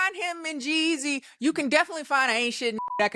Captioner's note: beep